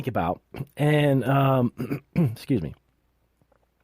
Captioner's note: clears throat